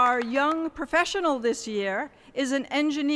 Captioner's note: applause